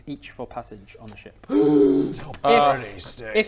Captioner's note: gasp